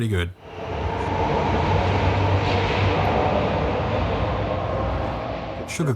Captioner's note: HCMT departing noises